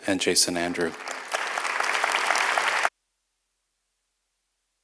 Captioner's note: audience applauds